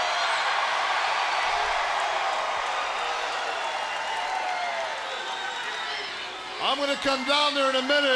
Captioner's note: crowd cheering